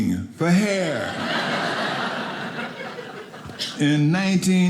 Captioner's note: audience laughing